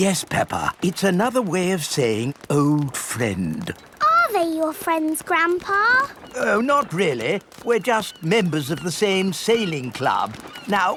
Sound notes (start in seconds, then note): none